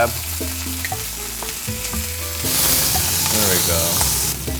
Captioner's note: steak sizzling